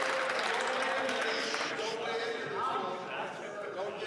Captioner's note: some Applause